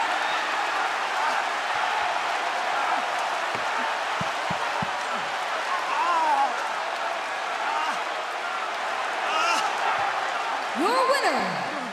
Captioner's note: cheers and applause